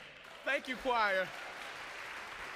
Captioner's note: congregation applauds